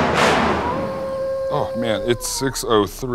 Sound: dramatic music; howling wolf

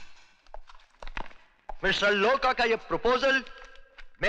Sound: none

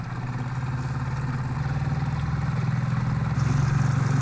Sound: engine puttering

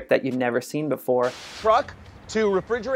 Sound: static noise

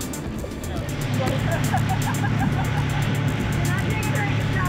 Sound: boat engine rumbles

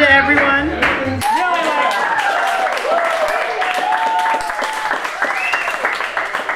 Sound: group cheers and applauds

